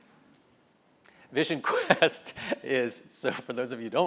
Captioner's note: laugh